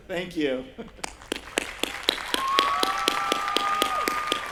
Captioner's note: applause